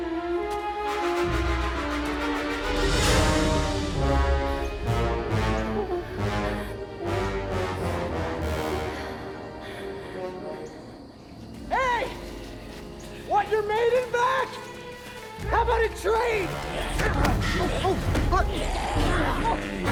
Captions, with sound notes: (hypnotic flute music continues) (menacing, dark music) (Josey's voice quavers with fear) - Hey! Want your maiden back? How about a trade? (Maiden 2 growls)